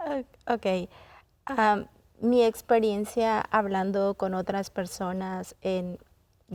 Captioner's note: in Spanish